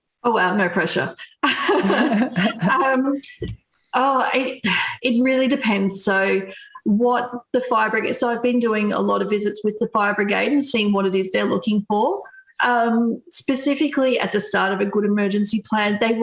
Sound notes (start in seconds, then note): 1.5 all laughing